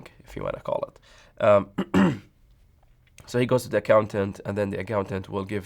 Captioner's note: throat clearing